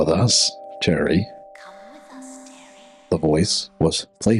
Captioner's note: whisper